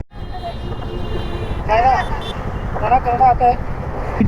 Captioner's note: traffic noise